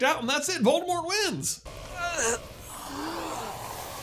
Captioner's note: painful groaning